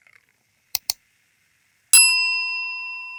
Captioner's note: mouse clicks; bell rings